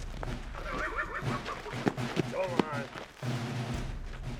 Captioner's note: horse neighing